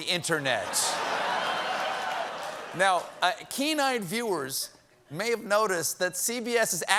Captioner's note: laughter